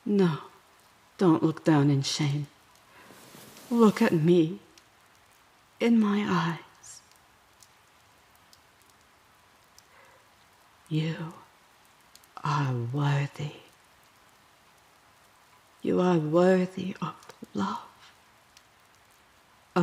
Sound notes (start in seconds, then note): 7.1 rustling as she holds your face